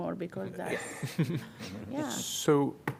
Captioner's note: laughter